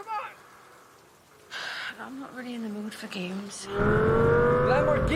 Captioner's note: Menghela nafas